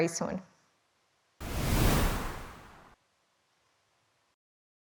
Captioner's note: transition whooshes